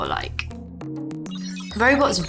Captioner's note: bright music; computer blips